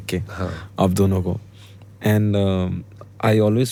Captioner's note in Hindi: नाक से की जाने वाली आवाज़